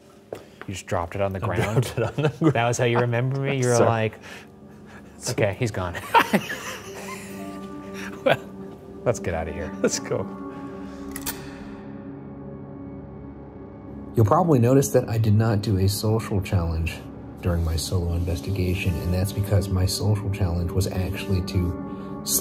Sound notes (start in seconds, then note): 1.4 chuckling; 5.9 chuckling